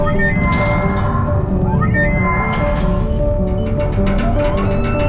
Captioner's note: dramatic music builds with urgency; Aerozoan whirring and screeching; ship rattling